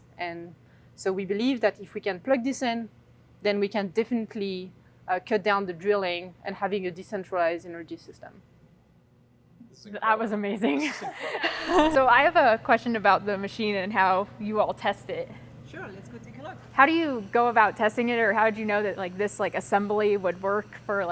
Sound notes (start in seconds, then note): 10.7 laughs